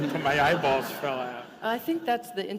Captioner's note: laughter